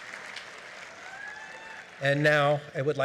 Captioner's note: applause